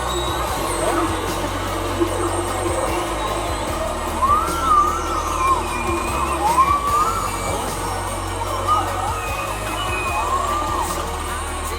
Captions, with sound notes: It keeps going! [Laughter] It's still goin' [Whale noises are still ongoing]